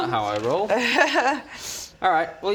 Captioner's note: unfooled laughter